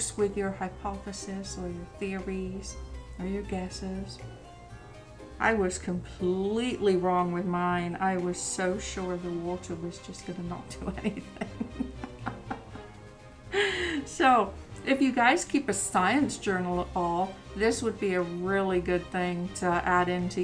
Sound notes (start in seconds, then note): 11.0 laughs